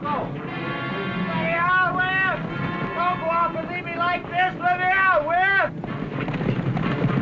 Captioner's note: tense music; martin screams; tense music